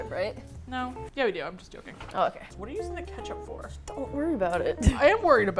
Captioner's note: laughs